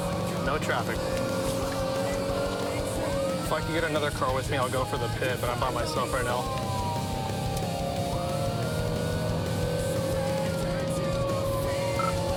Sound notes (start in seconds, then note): 6.7 siren blaring